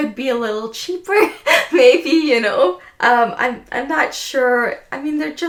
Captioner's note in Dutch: lacht